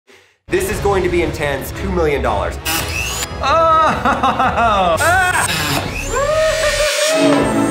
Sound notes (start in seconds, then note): 2.6 metal cutting; 3.4 laughing; 5.0 metal cutting; 6.1 laughing